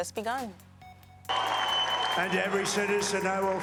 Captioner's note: audience claps and cheers